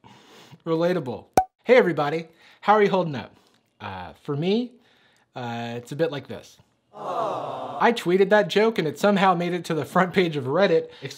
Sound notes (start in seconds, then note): 1.4 pop sound; 7.0 audience 'Aww' sound